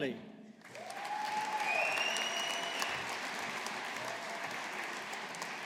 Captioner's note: audience applauding